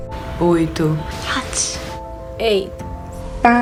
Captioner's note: speaking in foreign languages